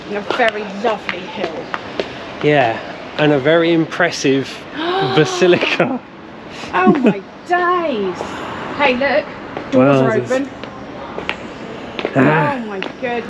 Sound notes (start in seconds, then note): 5.1 gasps